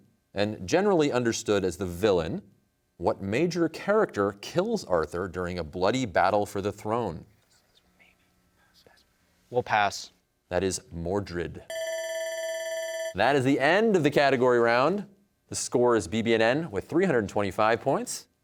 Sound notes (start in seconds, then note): 7.7 team whispering; 11.7 bell rings